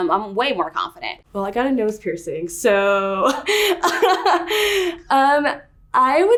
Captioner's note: laughs